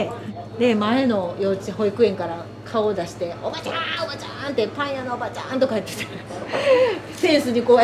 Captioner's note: laughs